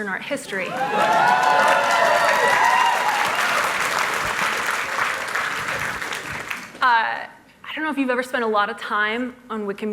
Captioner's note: cheers and applause